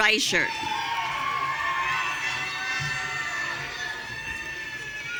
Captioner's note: audience cheering